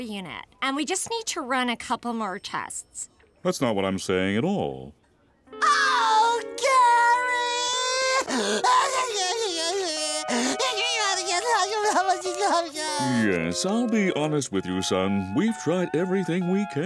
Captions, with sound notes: And we just need to run a couple more tests. That's not what I'm saying at all. Oh, Gary! [crying] [whimpering] Yes, I'll be honest with you, son. We've tried everything we can.